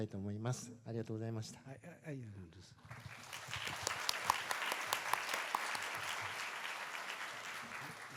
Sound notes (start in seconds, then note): 2.8 applause